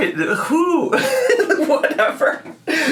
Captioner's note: laughs